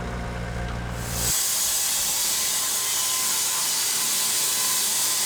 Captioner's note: blade sawing